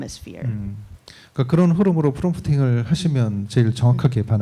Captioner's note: speaking korean